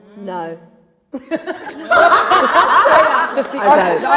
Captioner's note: laughter